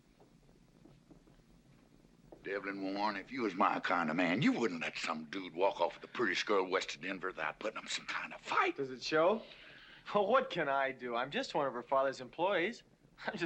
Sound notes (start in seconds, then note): none